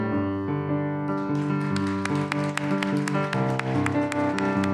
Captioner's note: applause